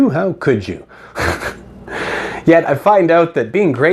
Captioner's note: snickering